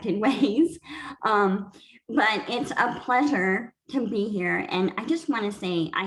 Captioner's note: laughter